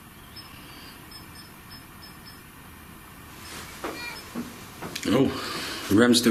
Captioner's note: metre beeping